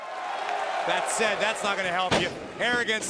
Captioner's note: applause